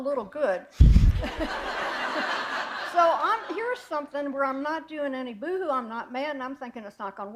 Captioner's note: laughter